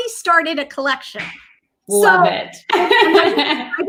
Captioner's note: laughs